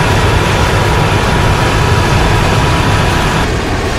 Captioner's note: jet engine buzzing